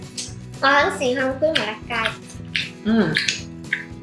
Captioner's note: eating